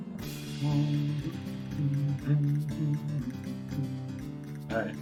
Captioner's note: humming along